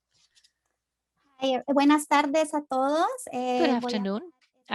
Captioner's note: speaking in Spanish